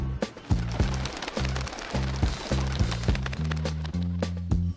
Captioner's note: bird wings flapping